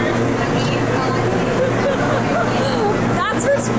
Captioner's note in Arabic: يضحك